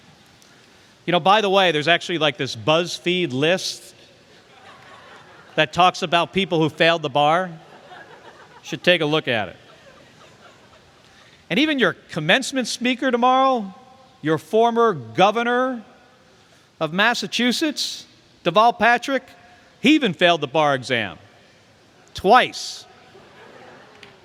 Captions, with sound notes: By the way, there's actually like this BuzzFeed list [LAUGHTER] that talks about people who failed the bar, should take a look at it. Even your commencement speaker tomorrow, your former governor of Massachusetts, Deval Patrick, he even failed the bar exam twice.